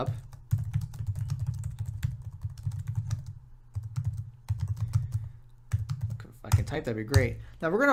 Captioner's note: typing